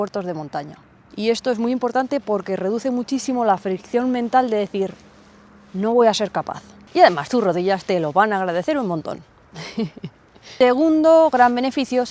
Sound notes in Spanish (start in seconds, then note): 9.5 risas